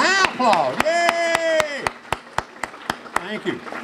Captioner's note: clapping